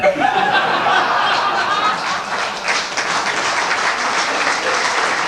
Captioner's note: laughter and applause